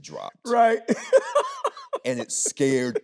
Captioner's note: laughing